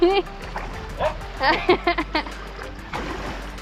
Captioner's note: laughter